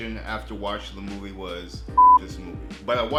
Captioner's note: beep